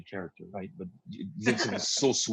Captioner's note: everybody laughs